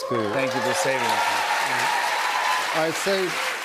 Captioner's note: cheers and applause